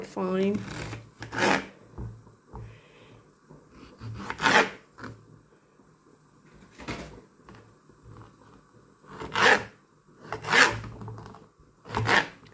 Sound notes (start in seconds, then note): 4.0 chopping